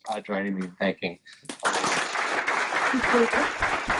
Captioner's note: applause